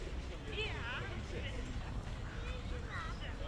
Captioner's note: family talking